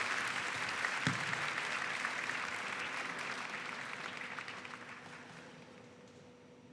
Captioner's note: applause